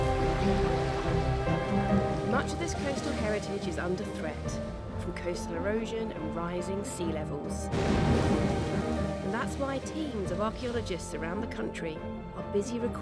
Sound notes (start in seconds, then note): 0.3 gentle music; 7.6 water splashing